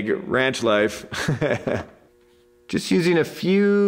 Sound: instructor laughs

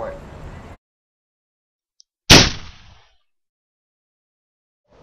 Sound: gunshot

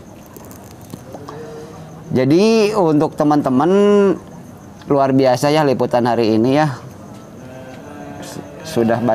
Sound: laughs

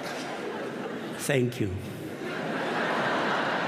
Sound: laughter

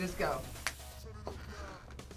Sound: snaps

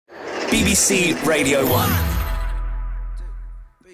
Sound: voiceover

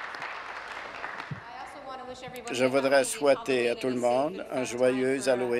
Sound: applause

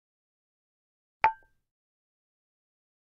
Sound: sound of jar

